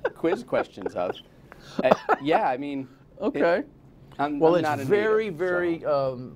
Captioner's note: laughter